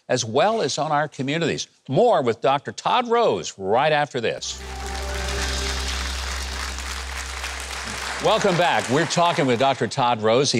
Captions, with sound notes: as well as on our communities. More with Dr. Todd Rose, right after this. (audience applauding) Welcome back, we're talking with Dr. Todd Rose.